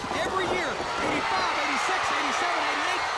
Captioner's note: crowd cheering